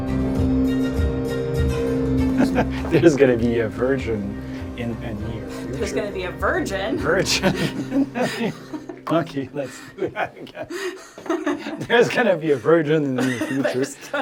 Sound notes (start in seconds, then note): 2.3 laughs; 7.0 laughs; 10.4 laugh